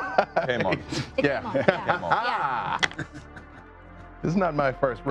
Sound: laughing

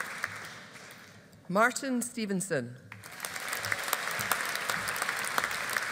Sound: audience applauding

